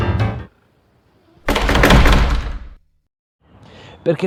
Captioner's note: squeaking and slamming door